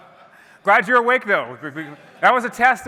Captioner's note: laughter